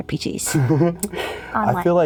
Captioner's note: giggles